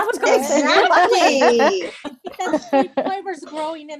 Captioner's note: laughter